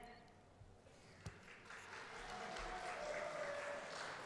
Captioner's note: applause